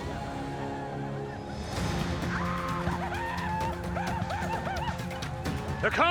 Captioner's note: war cries